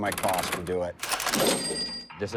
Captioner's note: cash register sound